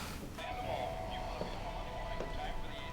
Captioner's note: radio chatter